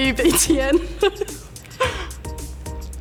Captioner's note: laughs nervously